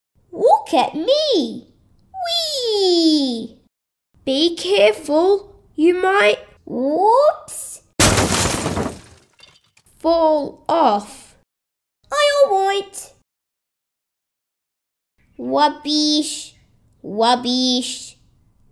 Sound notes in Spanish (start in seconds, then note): 8.0 ¡Choque!